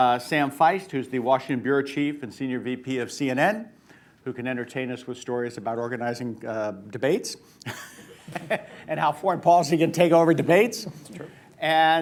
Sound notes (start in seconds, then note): 7.6 laughs, laughter